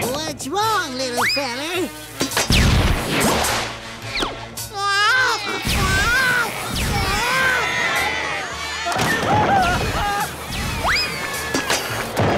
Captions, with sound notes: What's wrong, little feller? [crying] [screaming]